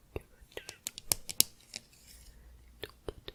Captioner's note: tapping on can